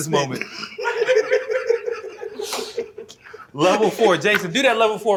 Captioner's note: laughter